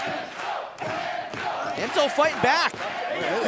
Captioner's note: fans chanting